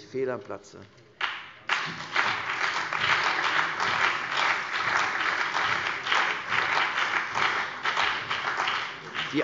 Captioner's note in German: Beifall bei der CDU und dem BÜNDNIS 90/DIE GRÜNEN